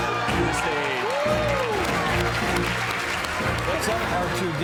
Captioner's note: audience applauds; upbeat music